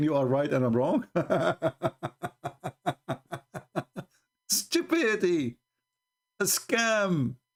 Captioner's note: Ketawa